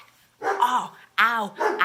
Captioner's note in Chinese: 狗吠